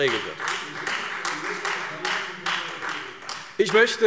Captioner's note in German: Beifall Freie Demokraten